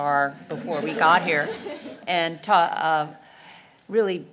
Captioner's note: laugh